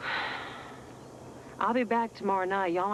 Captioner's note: sighs